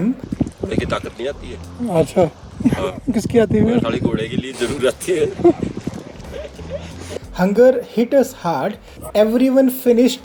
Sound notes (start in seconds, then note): 6.4 laughing